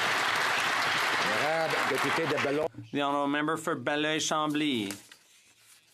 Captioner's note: some Applause